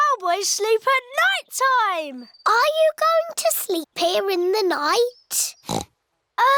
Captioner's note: oinks